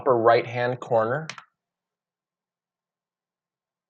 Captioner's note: clicks